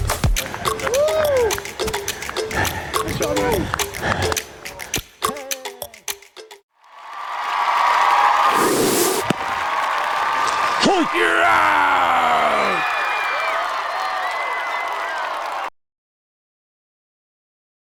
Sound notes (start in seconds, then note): 10.7 umpire out call; 13.0 cheering